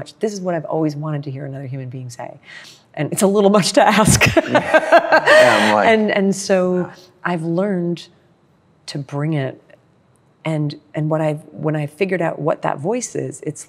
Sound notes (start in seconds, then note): 4.3 laughs